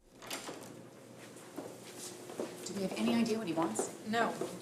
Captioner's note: door opening